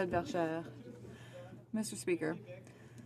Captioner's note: speaking French